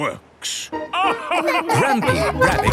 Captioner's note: all laugh